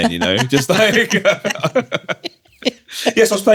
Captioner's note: laughter